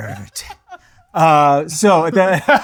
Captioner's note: laughing